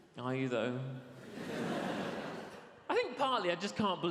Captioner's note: audience laughs